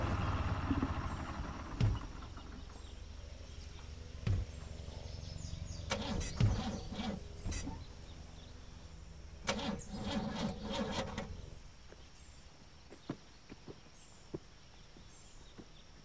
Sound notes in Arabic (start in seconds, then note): 6.1 توقف المحرك